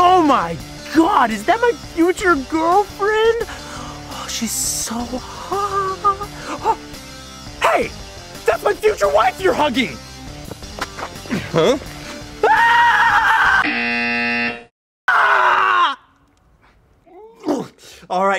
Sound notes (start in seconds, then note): 6.3 gasps in surprise; 12.4 shrieks; 13.6 buzzer goes off